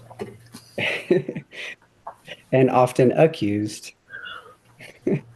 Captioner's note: chuckles